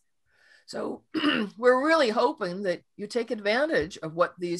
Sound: clears throat

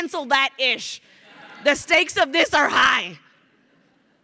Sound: crowd laughing

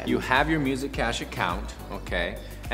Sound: none

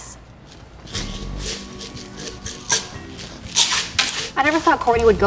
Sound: meds rattling

